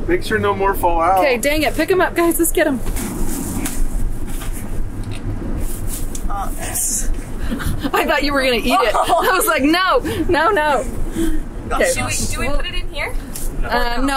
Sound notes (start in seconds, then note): 6.9 laughs